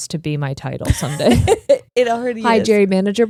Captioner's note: giggling